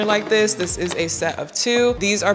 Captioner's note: containers clatter